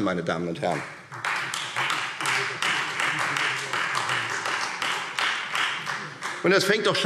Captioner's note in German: Beifall Freie Demokraten